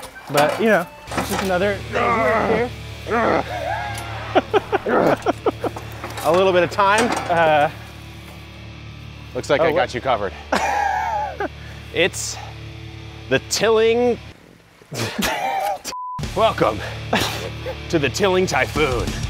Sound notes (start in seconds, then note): 1.7 man groaning; 3.9 laughing; 10.3 laughing; 14.9 laughing; 15.9 beep